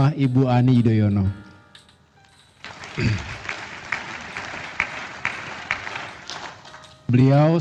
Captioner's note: applause